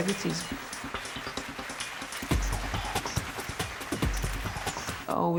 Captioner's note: audience applauding